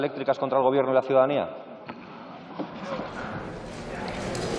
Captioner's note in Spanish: Aplausos